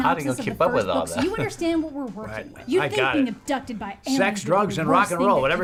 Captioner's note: chuckles